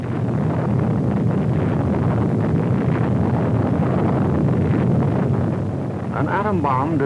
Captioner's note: explosion